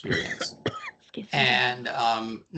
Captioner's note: coughing